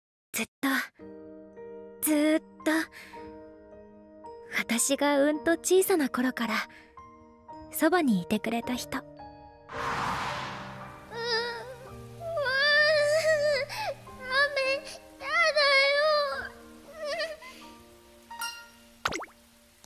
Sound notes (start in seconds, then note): 12.2 sob; 16.1 sniffle